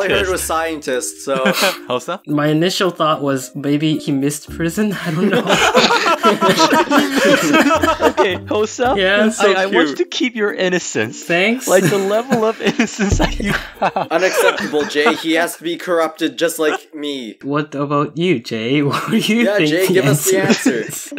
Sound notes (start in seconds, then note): 5.0 laughs; 7.5 laugh